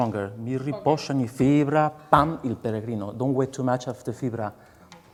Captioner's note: speaking lyrics in a foreign language